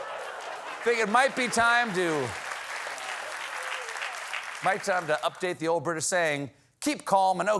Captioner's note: applause